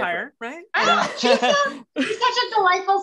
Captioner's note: laughing